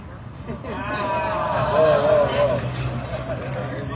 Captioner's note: audience exclaims